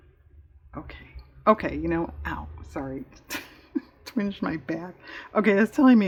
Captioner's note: laughs